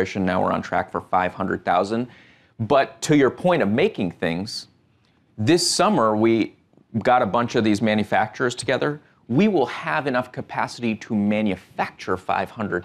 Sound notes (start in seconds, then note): none